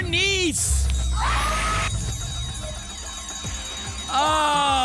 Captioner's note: applause and cheering